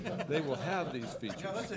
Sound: laughing

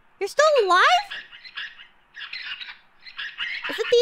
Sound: desperate squeaking

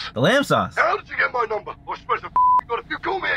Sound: beep

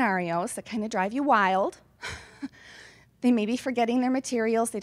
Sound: laughs

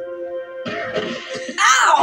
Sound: crash

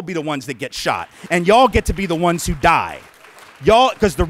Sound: clapping

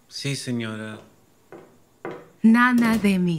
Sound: footsteps departing

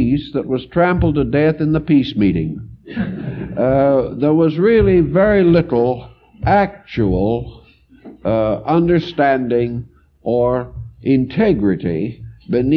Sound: laugh

